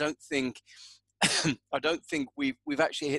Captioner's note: coughs